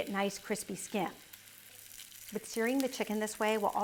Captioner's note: pan sizzling